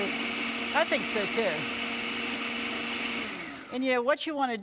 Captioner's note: blender Whirring